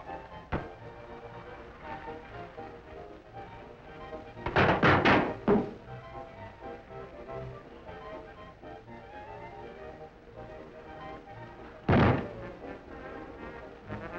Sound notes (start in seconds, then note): 4.4 thumps